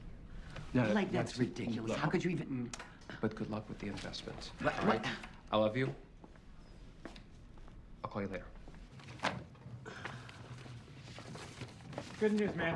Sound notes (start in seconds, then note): 4.6 scoffs; 9.8 sighs